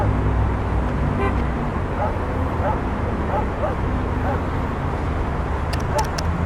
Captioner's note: dog barking; horn honking; phone buttons tapping